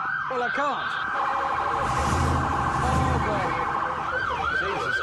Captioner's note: siren blaring